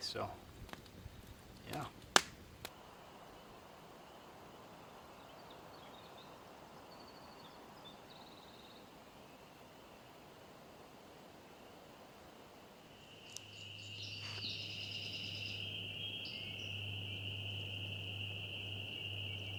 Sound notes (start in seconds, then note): 6.2 frogs ribbiting; 14.5 frogs intensify